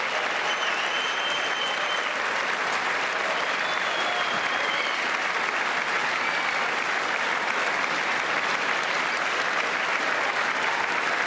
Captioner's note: applause